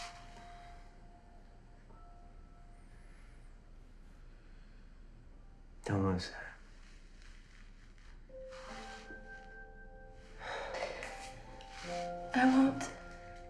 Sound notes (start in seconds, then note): none